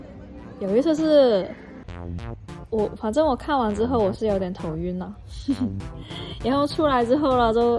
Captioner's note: laughs